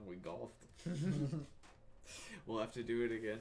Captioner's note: laughs